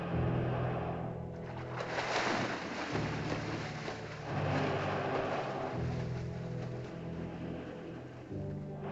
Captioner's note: dinosaur's labored breathing; ominous music; water splashes; dinosaur's labored breathing; ominous music